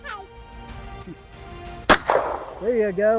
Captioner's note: gunshot